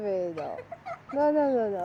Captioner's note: kid's laughing at the back